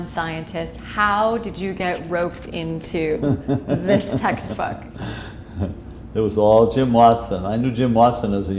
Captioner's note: chuckle